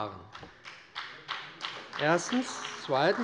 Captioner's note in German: Beifall bei dem BÜNDNIS 90/DIE GRÜNEN und der CDU